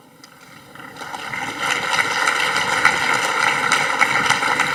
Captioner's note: audience applauding